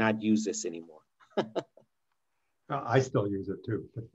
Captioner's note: laughs